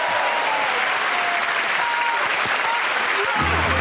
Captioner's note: applause